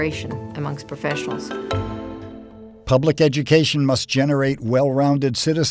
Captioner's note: voiceover